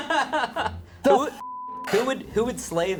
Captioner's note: crew member laughing; beep